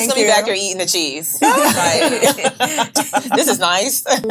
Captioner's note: ladies laughing